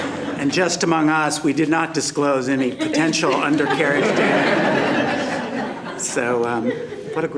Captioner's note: laughter; laughter